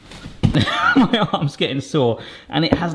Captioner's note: laughing